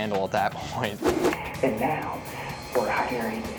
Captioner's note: screen whooshes